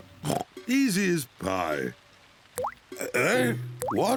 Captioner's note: oinks; all gasp